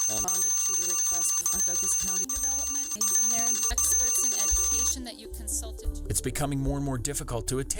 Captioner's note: bell ringing; bell ringing over woman's voice